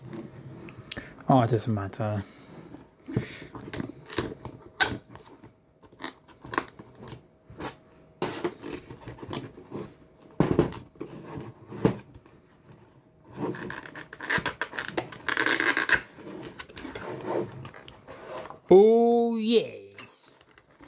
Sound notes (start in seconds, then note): 13.2 box noises